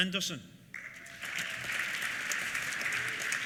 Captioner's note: applause